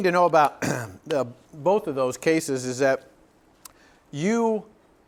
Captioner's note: cough